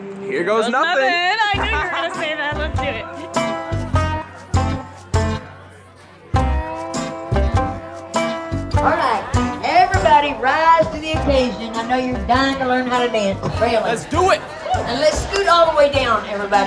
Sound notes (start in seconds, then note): 1.6 laughs; 9.1 over microphone